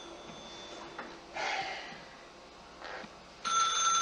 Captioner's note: exhales nervously